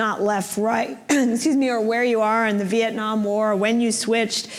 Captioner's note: clears throat